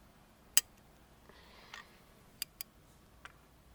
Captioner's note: click